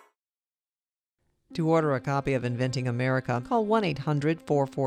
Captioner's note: voiceover